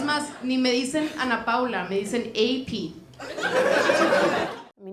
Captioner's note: Risas